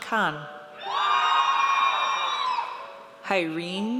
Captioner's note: audience cheers